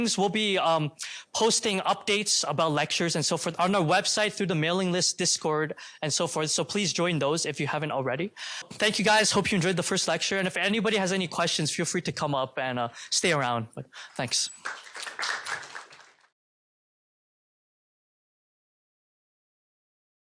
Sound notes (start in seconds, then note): 14.1 applause